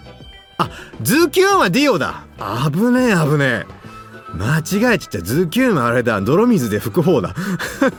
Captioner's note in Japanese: 笑い